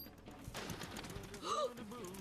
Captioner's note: Doogal gasps; driver singing